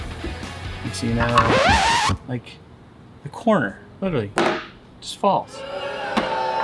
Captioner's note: booing